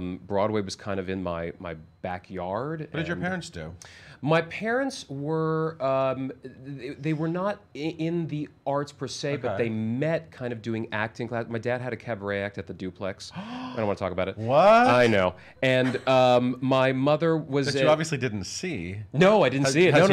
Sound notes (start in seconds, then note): 13.3 gasps